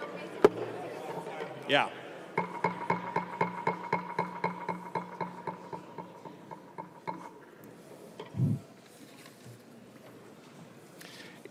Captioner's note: gavel